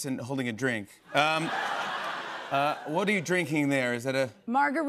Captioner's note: laughter